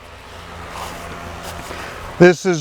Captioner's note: engine revving